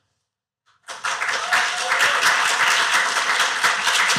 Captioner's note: applause